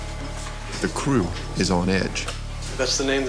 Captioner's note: voiceover